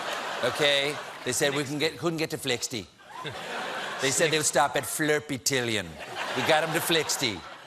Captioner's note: laughter